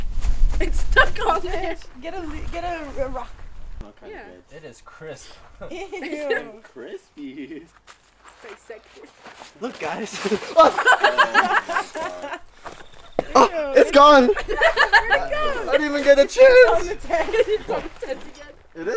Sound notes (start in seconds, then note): 11.1 laughs